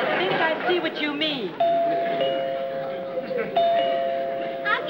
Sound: doorbell rings

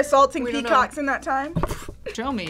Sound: laughs

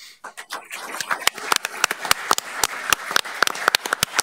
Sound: all applauding

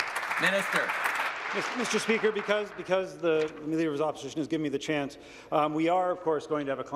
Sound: applause

